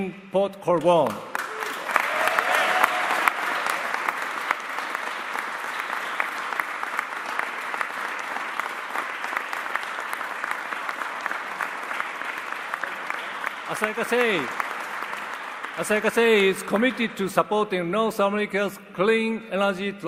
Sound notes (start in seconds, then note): 5.7 applause